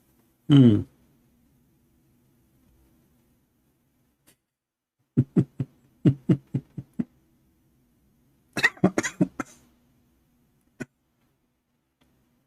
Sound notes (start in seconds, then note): 6.0 Ketawa